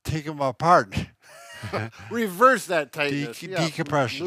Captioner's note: both chuckle